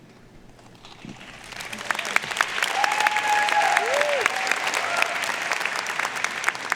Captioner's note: audience cheering and applauding